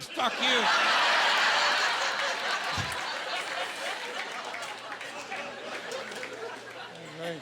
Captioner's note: laughing